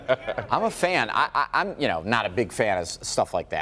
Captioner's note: laughter